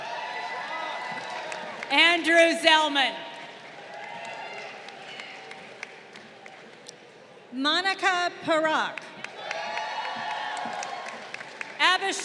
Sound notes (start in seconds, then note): 0.0 crowd cheering; 3.3 crowd applauding; 9.1 crowd cheering